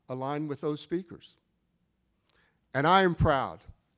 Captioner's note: none